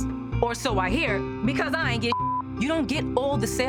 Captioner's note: beep